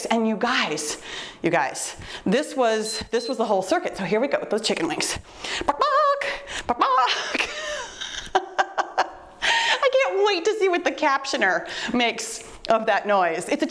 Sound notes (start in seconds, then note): 2.8 timer beeps; 6.8 makes chicken noise; 7.1 laughs